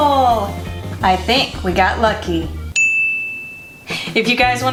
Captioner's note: ding